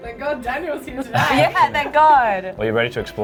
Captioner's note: chuckles